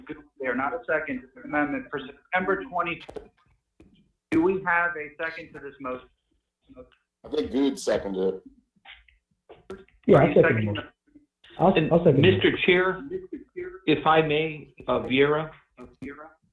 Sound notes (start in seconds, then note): 9.0 audio cuts out